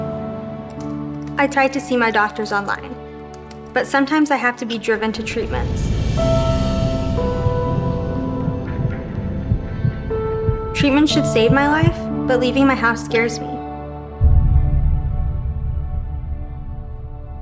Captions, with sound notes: (keyboard clacking) I try to see my doctors online but sometimes I have to be driven to treatment. Treatment should save my life but leaving my house scares me.